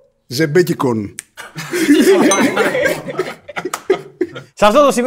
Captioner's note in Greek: γέλια